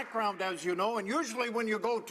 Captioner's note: applause